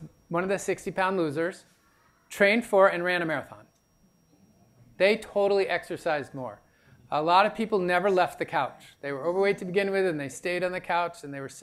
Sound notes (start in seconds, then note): none